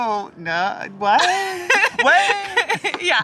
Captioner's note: laughs